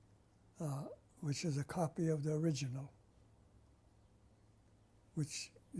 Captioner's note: pauses for 3 seconds